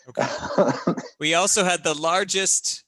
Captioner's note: laughing